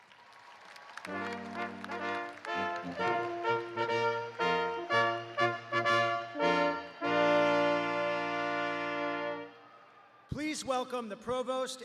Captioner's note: cheers and applause